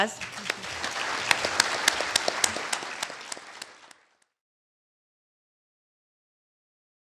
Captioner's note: applause